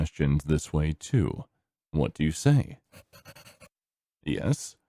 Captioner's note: pencil scribbling